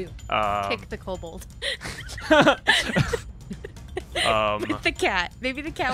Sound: laughter

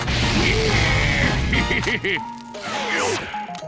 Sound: laughing

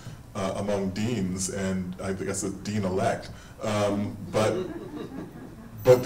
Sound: audience laughing

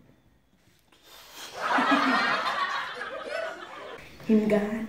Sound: snickering laugh

